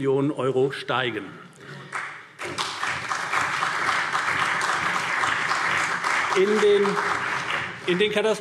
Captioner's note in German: Beifall CDU und BÜNDNIS 90/DIE GRÜNEN